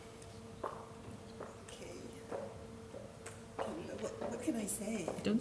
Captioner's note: heels clopping